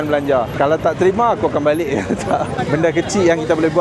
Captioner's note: laugh